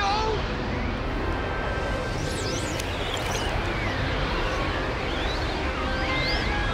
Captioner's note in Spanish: música espacial; viento silbando